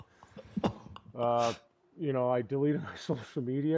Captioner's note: laughs